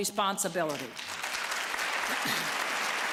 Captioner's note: applause